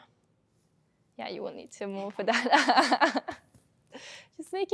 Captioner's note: laughing